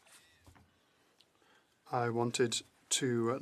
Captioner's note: speaking french